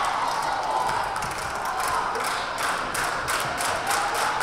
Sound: crowd applauding

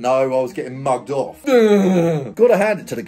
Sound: groans

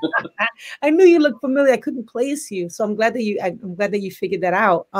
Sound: laughs

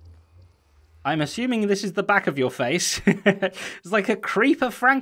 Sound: chuckles

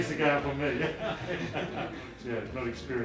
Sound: laughter

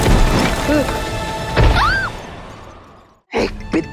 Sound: loud thud; thud

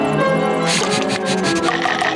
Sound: sniffing

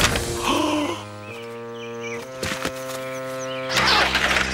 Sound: box bangs; gasps; engine rumbling

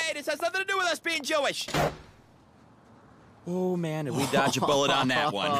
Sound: door slams

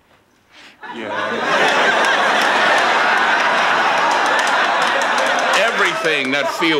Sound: audience laughing

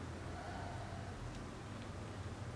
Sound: deep breath

